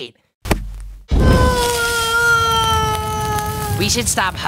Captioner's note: impact noise; flame sound; Leafy screaming